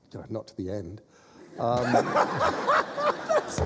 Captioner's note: laughter